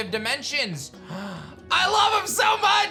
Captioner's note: gasps